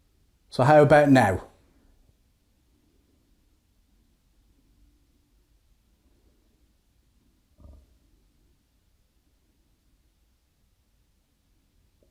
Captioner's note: silence; silence